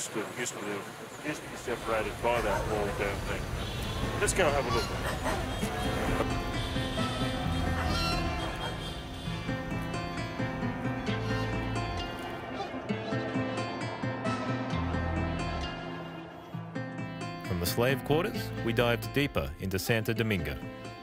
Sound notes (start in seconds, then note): 4.9 traffic Honks; 7.7 dog Barking; 8.8 gentle Guitar